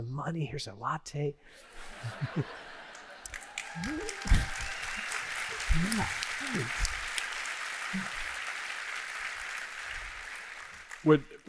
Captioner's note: laughter; applause